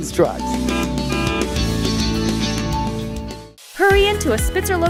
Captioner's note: truck honking